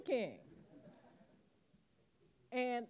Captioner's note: audience laughing